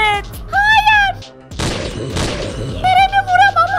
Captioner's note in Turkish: Ateş sesi